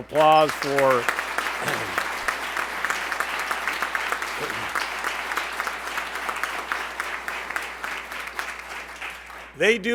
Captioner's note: applause